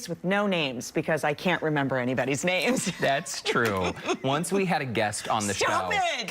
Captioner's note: laughter